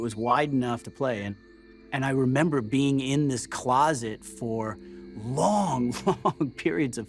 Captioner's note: laughs